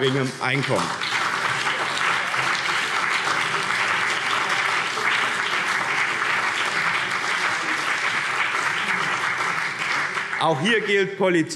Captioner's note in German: Beifall BÜNDNIS 90/DIE GRÜNEN